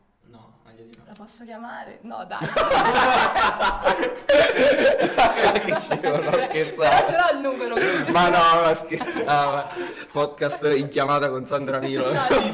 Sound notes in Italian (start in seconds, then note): 2.4 Risate